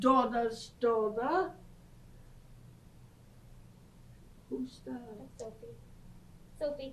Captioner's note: pauses for 3 seconds